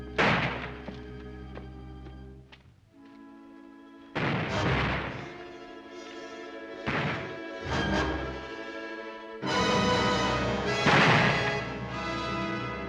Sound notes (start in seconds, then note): 0.2 gunshot; 4.1 gunshots; 6.7 ominous music; 6.8 gunshot; 9.3 suspenseful dramatic music; 10.7 gunshot; 12.6 dramatic music